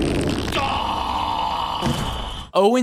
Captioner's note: farting